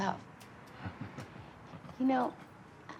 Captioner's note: Jim laughs